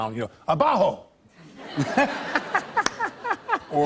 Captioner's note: laughter